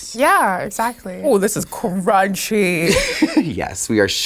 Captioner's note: Sasha laughing